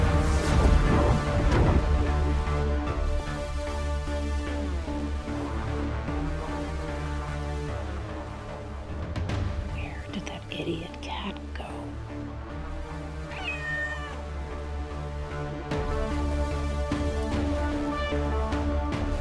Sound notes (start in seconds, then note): 13.2 meowing